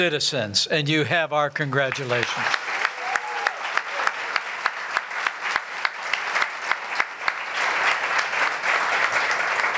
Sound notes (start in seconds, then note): 1.8 applause